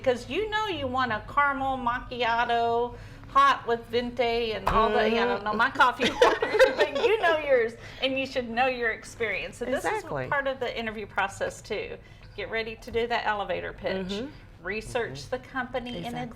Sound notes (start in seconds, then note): 6.0 laughing